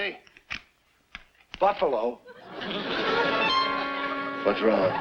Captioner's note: audience laughs